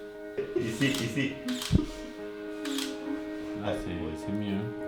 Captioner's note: camera clicking